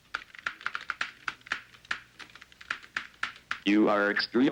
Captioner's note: keyboard tapping